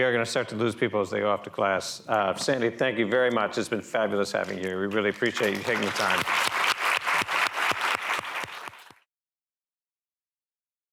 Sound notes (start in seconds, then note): 6.5 applause